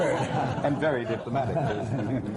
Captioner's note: laughter